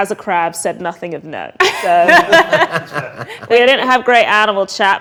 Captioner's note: group laughs